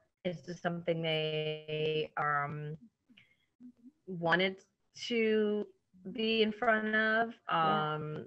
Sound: elongated 'they,' computer glitch

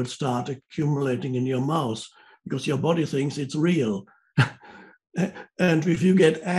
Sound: chuckles

